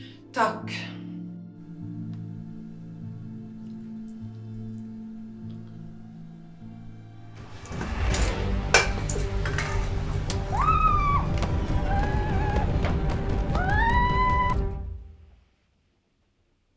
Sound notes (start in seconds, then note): 2.7 threatening ambient music; 7.0 the music distorts; 10.3 she screams